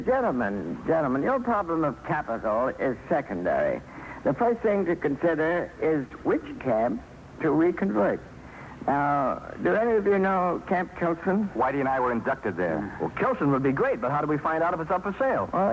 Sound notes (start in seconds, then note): none